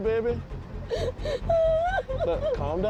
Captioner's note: sobbing